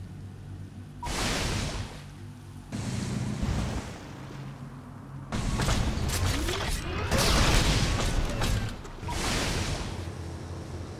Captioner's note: shooting, battle sounds